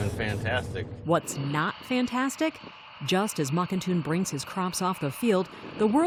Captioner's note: voice-over